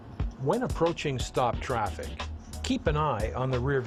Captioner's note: voiceover